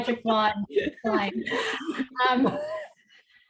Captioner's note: laughs; chuckles